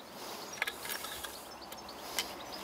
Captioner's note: birds chirping